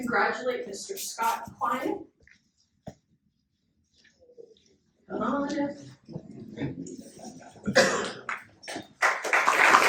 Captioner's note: applause